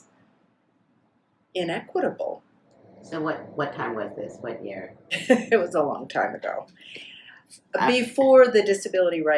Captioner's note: laughs